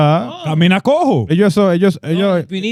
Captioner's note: speaking In Foreign Language